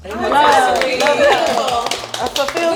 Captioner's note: applause